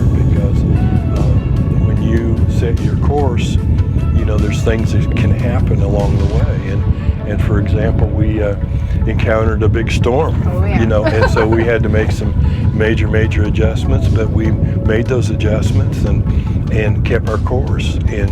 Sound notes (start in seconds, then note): 10.0 laughs